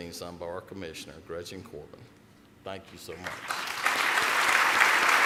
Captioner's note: applause